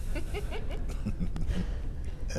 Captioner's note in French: la personne rit